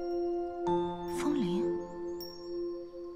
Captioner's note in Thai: กระดิ่งลม